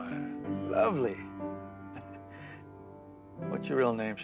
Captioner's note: chuckling